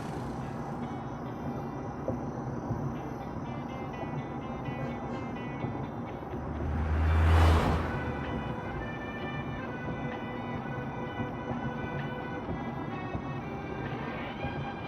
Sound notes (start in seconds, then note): none